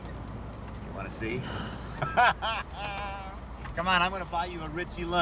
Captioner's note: Jeff laughs